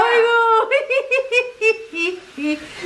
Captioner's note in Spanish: risas de mamá